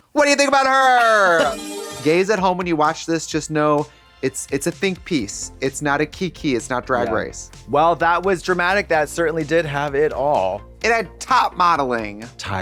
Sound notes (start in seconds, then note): 1.2 Katya rattles